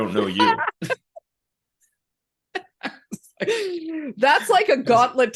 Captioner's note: laughs